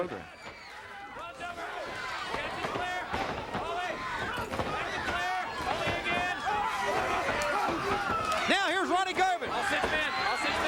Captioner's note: crowd cheering